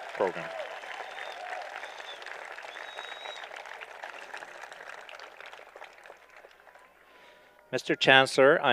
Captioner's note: applause